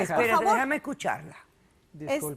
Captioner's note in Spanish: Hablan al unísono